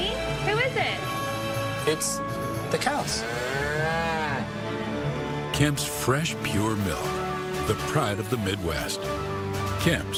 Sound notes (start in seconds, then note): 4.7 cow mooing